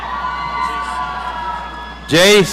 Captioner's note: audience cheering